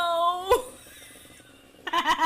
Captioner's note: wheezes